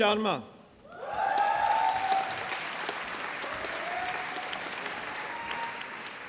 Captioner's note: applause